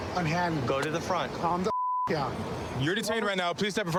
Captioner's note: beep